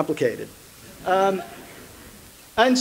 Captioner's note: laughter